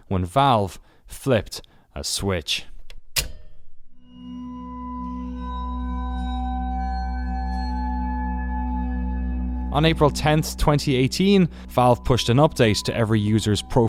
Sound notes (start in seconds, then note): 2.8 switch clicking sound; 5.7 ominous music